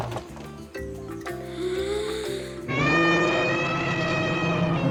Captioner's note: inhales deeply and trumpets